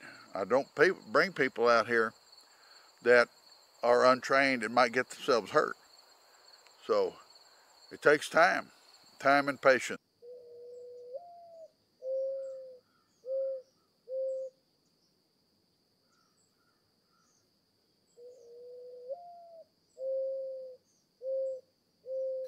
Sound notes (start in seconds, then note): 11.0 owl cooing; 12.0 bird chirping